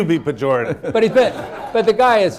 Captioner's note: laughter